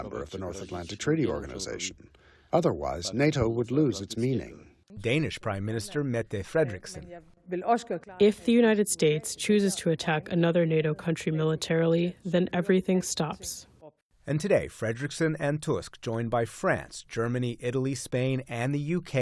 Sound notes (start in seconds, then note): 8.5 through translator